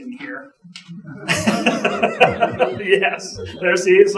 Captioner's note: audience chuckling